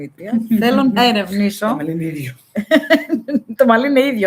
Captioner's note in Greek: γέλια